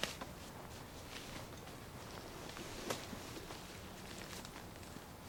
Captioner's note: tent fabric rustling